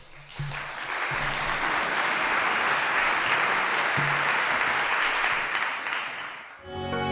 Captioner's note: applause